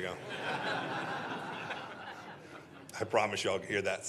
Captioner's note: laughter